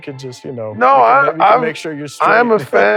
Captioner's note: laughs